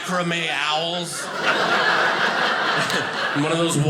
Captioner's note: audience laughing